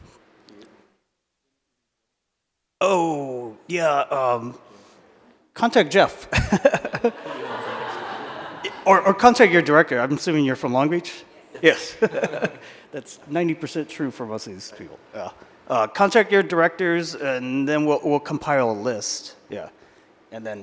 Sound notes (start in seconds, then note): 6.3 laughter; 11.5 laughter